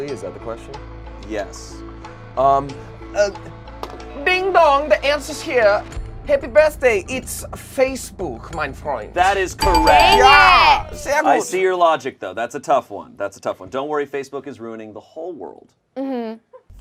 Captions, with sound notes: Is that the question? - Yes. - Ding-dong, the answer's here! Happy birthday, it's Facebook, mein freund. - That is correct. (buzzer rings) - Dang it. - I see your logic though, that's a tough one. That's a tough one. Don't worry, Facebook is ruining the whole world.